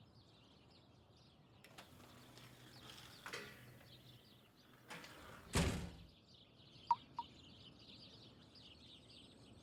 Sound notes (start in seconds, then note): 5.5 door closes; 6.9 water droplets